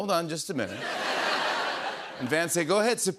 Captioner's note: laughter